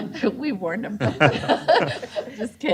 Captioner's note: laughter